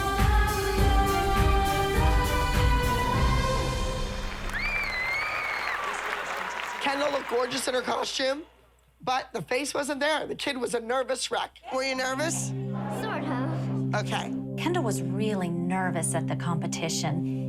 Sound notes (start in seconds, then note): 3.5 song ends; 4.2 audience applauding, whistling